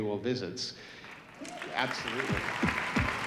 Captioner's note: audience applauding